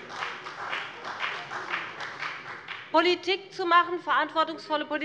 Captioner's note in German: Beifall bei dem BÜNDNIS 90/DIE GRÜNEN und der CDU